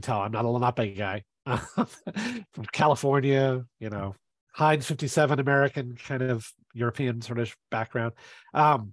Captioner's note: laughs